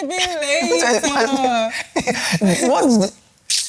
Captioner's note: laughs